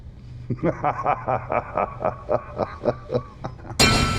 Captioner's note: laughing